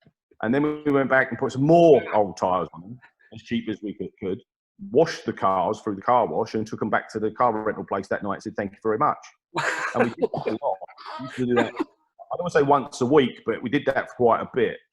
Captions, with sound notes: And then, we went back and put some more old tyres on, as cheap as we could, washed the cars through the car wash and then took them back to the car rental place that night and said, 'thank you very much'. (Laughs) And we did it a lot, we'd do that - I wouldn't say once a week, but we did that quite a bit.